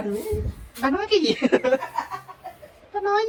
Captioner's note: laugh